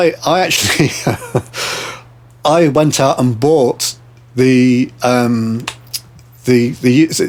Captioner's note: laughing